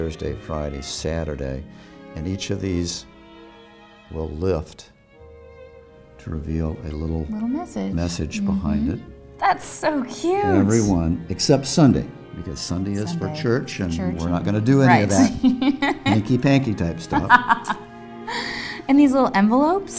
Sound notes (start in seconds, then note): 17.1 laughter